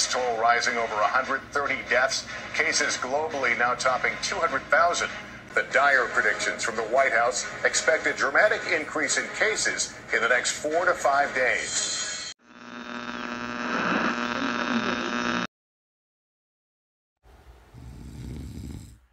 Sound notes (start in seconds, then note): 12.4 radio static returns